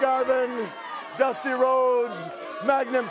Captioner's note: crowd cheering